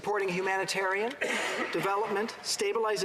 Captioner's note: applause